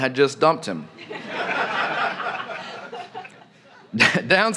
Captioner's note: laughter